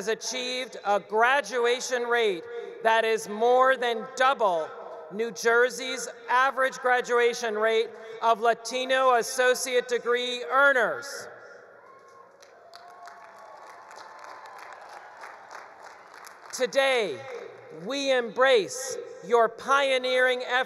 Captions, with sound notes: has achieved a graduation rate that is more than double New Jersey's average graduation rate of Latino associate degree earners. (attendees cheering) (attendees applauding) Today, we embrace your pioneering efforts